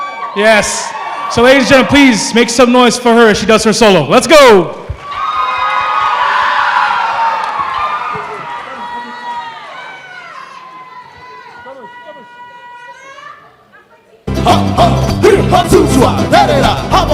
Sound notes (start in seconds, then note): 4.9 cheering; 14.5 non-english singing